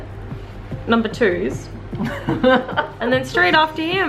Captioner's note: laughing